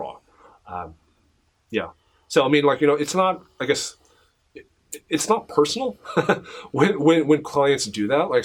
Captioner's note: laughs